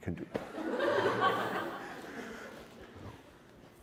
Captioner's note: laughter